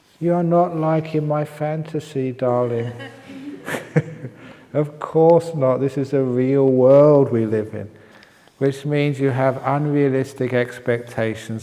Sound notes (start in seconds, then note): 2.6 laughs